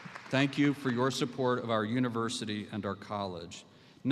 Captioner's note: applause